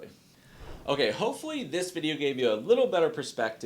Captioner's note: air swooshes